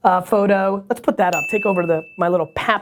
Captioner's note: bell rings